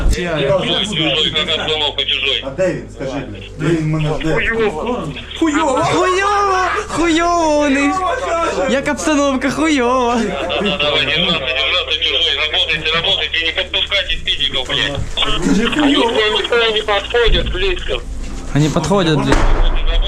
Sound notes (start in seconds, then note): 0.2 captured Russian radio; 3.4 radio in, " "